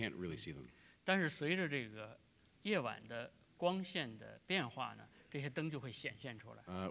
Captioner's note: speaking in Chinese; speaking in Chinese